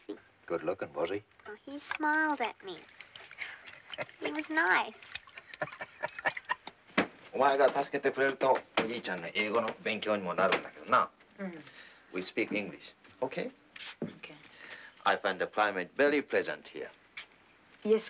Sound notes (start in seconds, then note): 5.5 Pop laughs; 7.4 speaking in foreign language